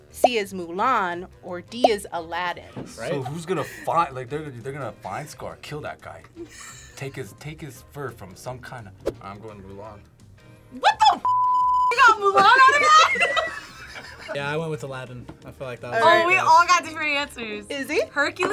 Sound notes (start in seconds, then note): 12.0 group laughs